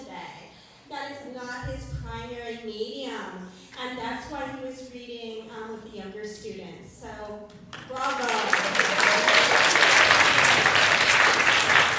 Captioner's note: applause